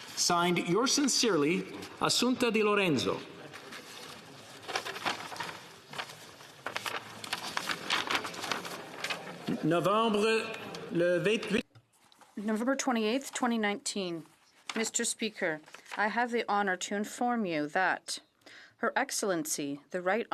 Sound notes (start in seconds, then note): 14.3 speaking in French